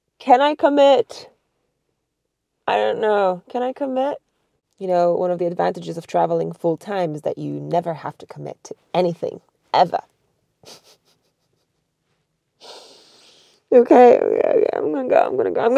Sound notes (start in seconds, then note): 10.6 chuckles